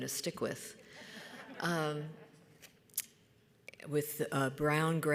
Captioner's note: audience laughs